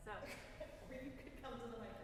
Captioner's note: chuckling